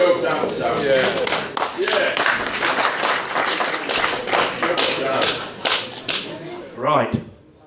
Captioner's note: applause